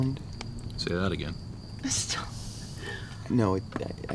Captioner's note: riendo